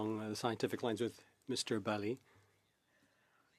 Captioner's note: speaking French